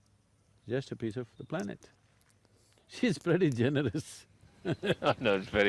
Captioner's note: both Laugh